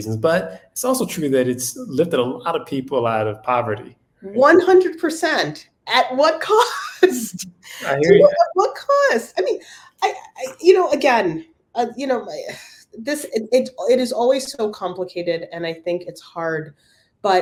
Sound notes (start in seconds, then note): 6.7 laugh